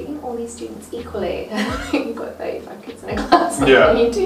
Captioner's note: laughs